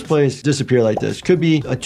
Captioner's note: bubble pops